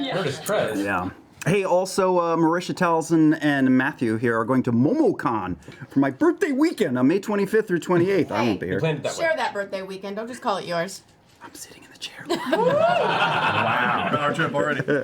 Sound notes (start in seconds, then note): 11.8 whispers; 12.3 laughter